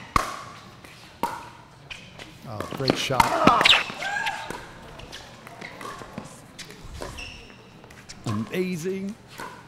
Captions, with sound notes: Great shot. (shouting) (ball bouncing) Amazing.